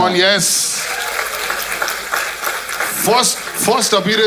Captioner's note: crowd applauding